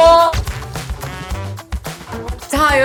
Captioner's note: Shouting Eun-hee in Singapore